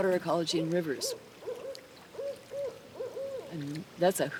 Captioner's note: owl hooting